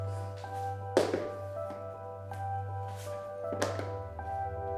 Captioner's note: shoes clatter